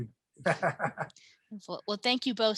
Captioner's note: chuckling